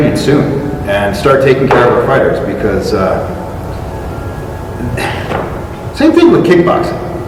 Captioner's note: exasperated sound